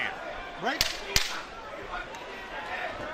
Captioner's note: loud tapping